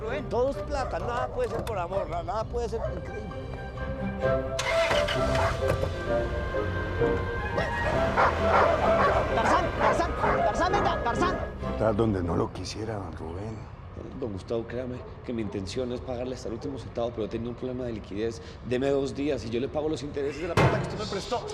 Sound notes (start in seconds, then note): 8.1 dog barking; 20.6 he bangs on the table